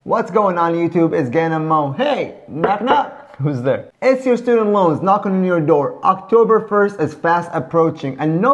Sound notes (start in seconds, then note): 2.6 knock knock